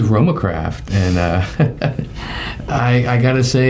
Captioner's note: laughing